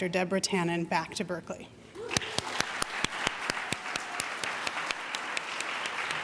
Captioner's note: audience applauding